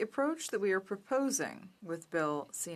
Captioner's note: speaking in French